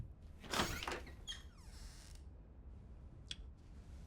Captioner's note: door creaks